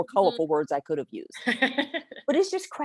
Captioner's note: chuckles